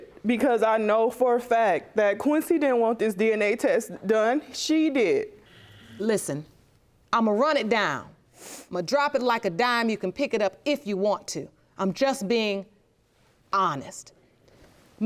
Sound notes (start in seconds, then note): none